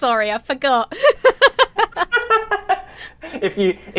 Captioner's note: both laugh